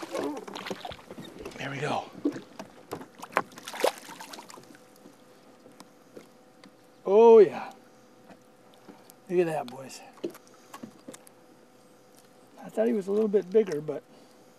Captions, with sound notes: [splash] oh yeah look at that boys I thought he was bigger